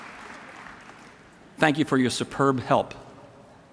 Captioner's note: applause